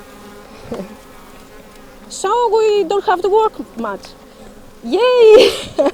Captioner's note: laughs